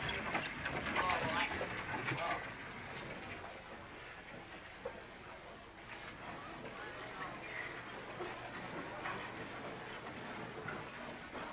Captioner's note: chatter